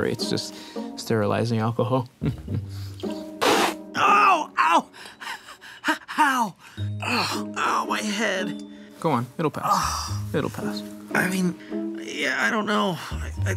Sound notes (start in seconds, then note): 2.2 chuckles; 2.9 spitting; 6.6 breathing